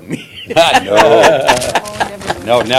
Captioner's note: laughter